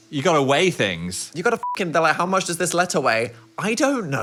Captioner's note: beep